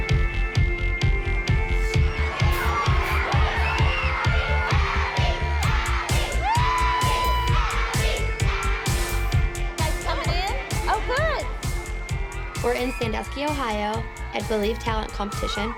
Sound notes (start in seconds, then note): 2.0 girls screaming